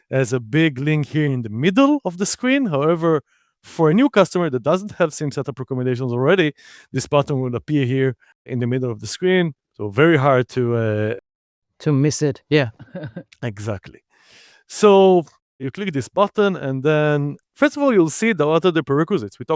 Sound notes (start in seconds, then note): 12.8 chuckles